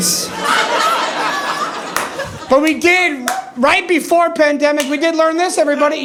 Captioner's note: audience laughing